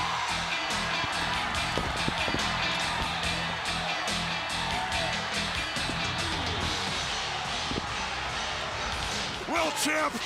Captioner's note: crowd chatter